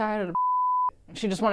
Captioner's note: beep